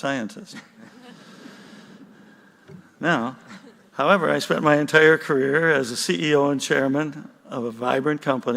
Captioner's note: chuckles